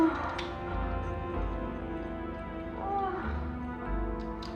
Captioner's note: moaning